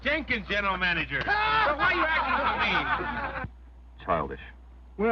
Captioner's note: all laughing